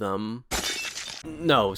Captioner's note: plate shatter sound